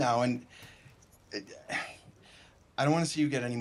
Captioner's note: stammers